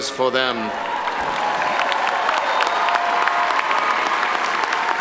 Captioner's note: graduates cheering